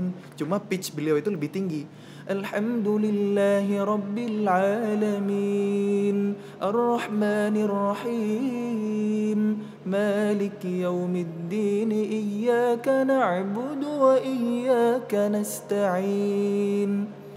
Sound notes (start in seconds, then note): 0.0 recites quran; 2.0 recites quran